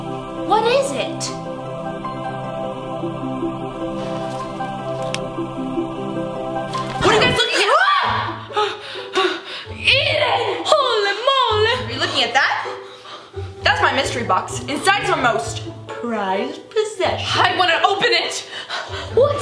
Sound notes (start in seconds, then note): 1.3 angelic music; 7.5 screams